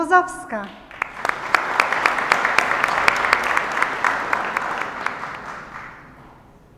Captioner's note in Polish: oklaski